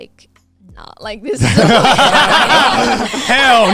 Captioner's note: everyone laughing